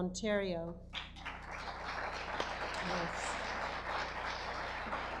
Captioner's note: audience applause